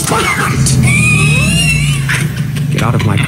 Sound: starts the car

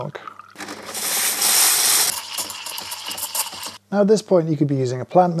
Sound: grinder grinding

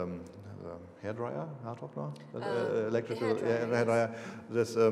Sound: speaking foreign language

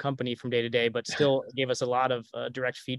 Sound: chuckles

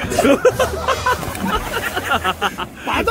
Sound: second splash

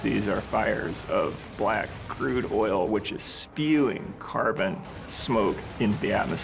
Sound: none

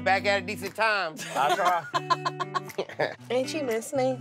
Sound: laughs

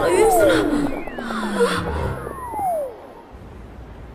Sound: system alert

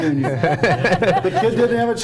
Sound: everyone laughing

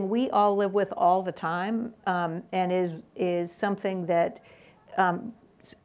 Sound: none

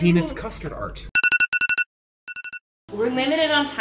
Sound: alarm rings

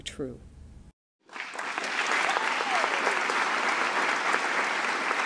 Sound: applauding

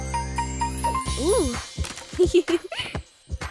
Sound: giggling

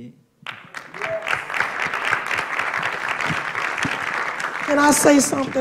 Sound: applause

